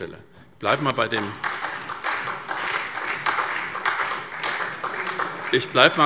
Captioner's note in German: Beifall SPD und Freie Demokraten